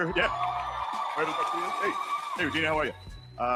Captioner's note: audience cheering